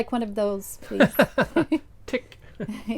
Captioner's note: laughs